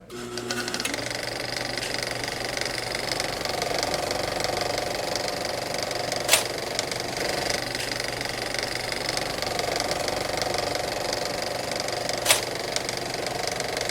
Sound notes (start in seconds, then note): 0.1 film reeling; 10.0 film reeling continues